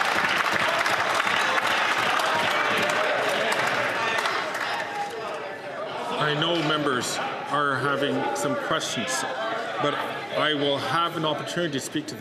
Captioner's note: applause